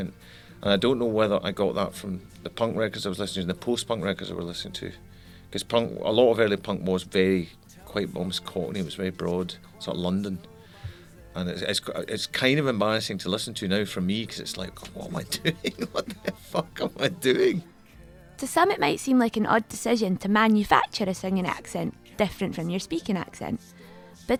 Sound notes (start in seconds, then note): 15.0 laughs